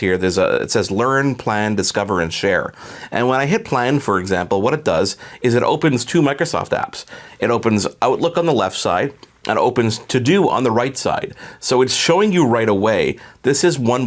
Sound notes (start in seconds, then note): none